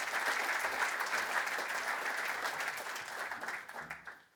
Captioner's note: upplause